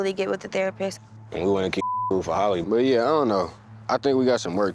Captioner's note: beep